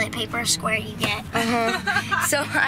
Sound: laughing

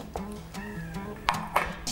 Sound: cat meows

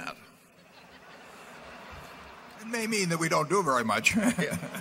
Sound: laughter

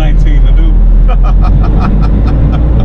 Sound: laughter

